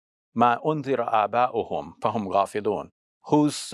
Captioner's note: speaking in foreign language